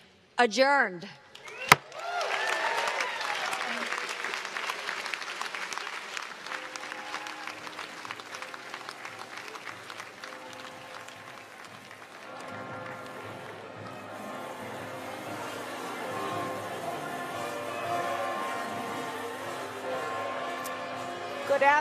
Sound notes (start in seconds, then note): 6.2 cheers and applause